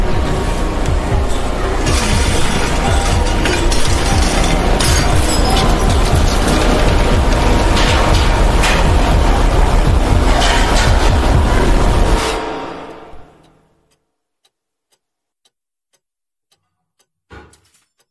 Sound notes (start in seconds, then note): 1.8 glass shatters; 2.0 heart beats; 13.3 clock ticks